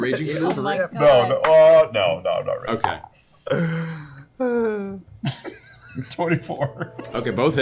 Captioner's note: laughing